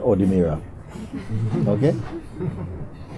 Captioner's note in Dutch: gelach